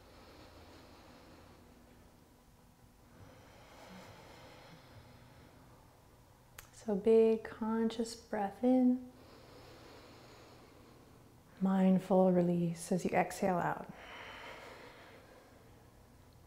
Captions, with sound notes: So big conscious breathe in, (inhaling) mindful reslease as you exhale out. (exhaling)